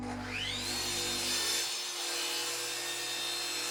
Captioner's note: saw buzzing